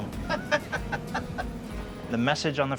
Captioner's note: laughing